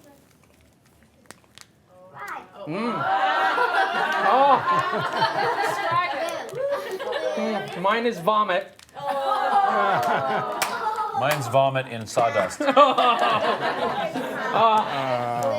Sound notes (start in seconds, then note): 2.7 audience laughing; 9.0 audience groaning; 12.2 audience laughing